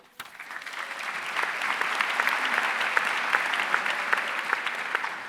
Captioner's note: audience applauding